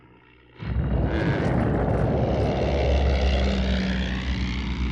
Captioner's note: camels groaning